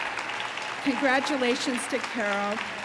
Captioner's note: audience applauding